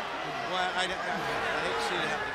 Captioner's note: crowd chatter